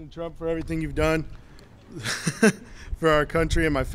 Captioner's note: laughs